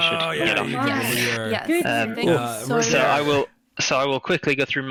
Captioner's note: excited chatter